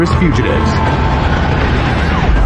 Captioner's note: siSiren waililing